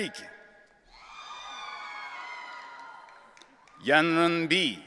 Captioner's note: audience cheering